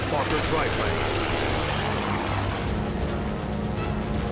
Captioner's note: weapons firing, music playing